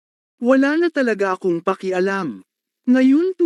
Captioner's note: filipino